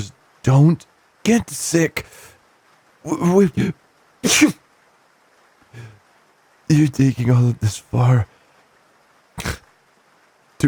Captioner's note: sneezes